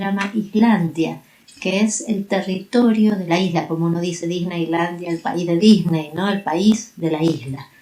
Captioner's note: in Spanish